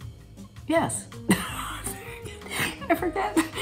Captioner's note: Catherine laughs